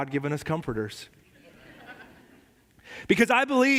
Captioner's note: la congregación se ríe